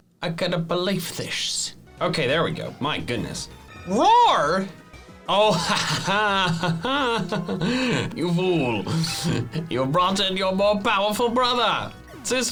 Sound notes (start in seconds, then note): 5.4 laughs